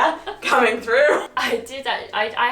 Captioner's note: laughs